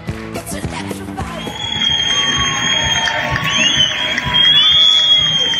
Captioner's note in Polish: Aplauz